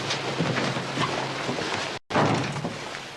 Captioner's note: door closes